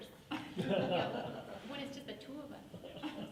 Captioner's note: laughing